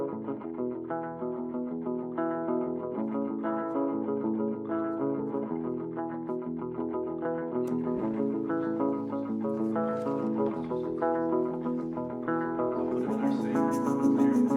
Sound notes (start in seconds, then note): 7.6 people chattering